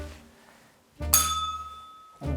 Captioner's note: bell rings